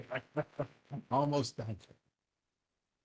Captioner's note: laugh